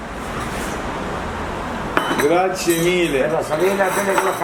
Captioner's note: in Italian